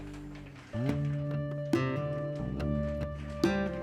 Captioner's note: paper rustling